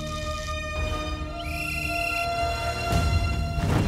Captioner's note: Whistle blows